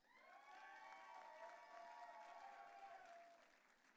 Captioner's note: audience cheering